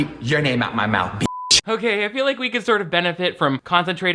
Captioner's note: beep